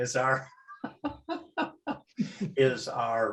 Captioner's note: laughter